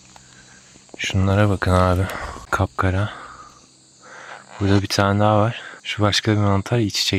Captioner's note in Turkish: iç çeker